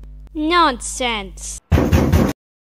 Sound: loud knock

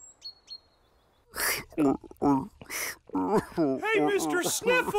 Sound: Jeff chugging

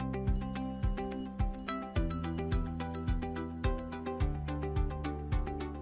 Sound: Little Candy Corn 2 beeping

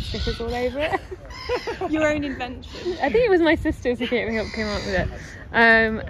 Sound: other voice laughs and asks

